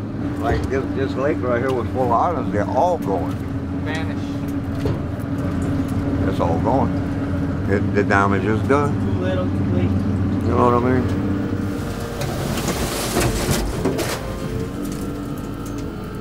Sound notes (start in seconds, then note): 11.6 metal scratches